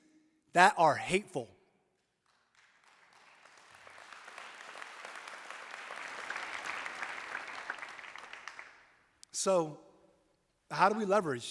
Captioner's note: applause